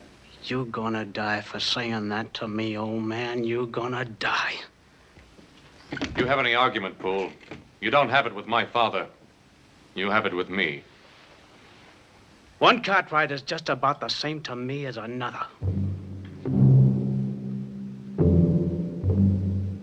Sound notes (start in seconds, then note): 5.9 doors open